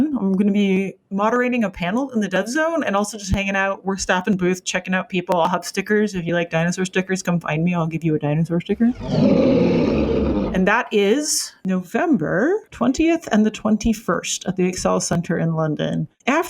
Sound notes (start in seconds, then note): 8.8 growling